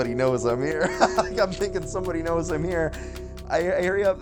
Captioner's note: laughs